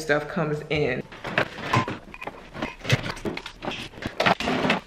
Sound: toys clanging

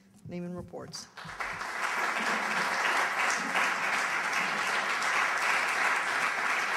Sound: applause

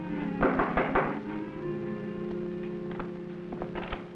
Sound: knocking at door

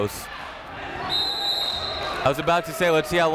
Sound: whistle

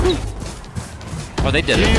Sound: gun shots

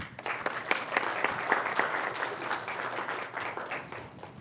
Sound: applause

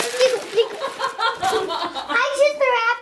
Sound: laughs

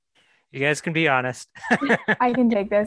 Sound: laughter

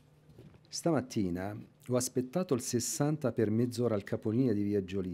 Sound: speaking italian

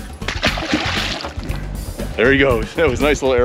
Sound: fish splashing

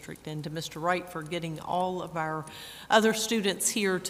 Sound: none

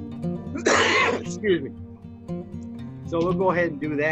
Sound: coughs

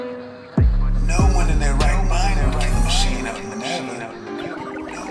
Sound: voice echoes

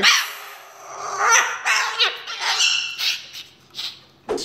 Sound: bird squawking

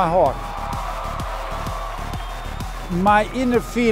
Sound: crowd cheering

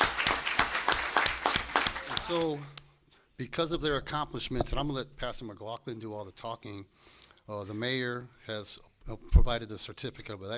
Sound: applause

